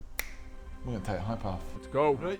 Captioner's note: finger click